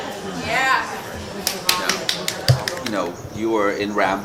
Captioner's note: clapping